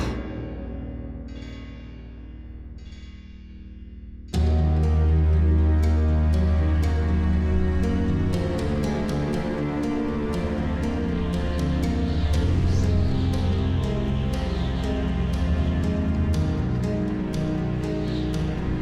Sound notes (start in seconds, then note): 4.2 dramatic music; 12.0 wind whooshing